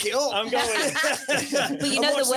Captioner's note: everyone laughs